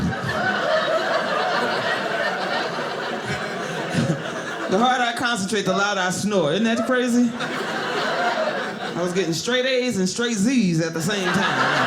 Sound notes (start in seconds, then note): 0.0 audience laughing; 6.6 audience laughing